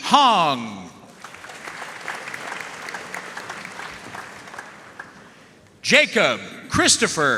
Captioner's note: audience cheering and applauding